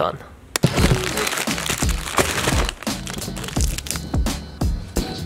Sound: bags crinkling

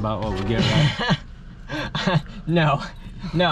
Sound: laughing

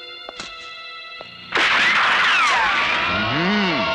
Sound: gunshot

